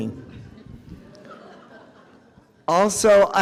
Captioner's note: audience chuckles